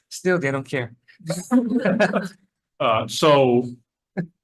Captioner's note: attendees laughing